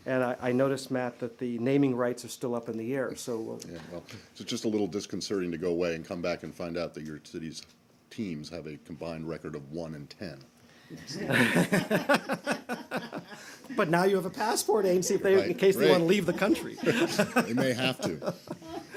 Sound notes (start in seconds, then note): 11.1 laughter